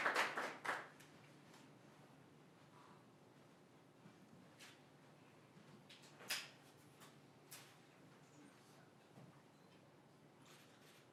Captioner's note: applause